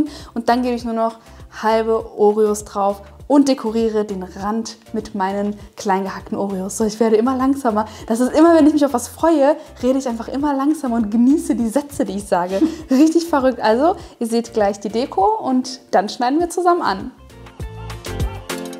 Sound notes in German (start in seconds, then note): 12.4 lacht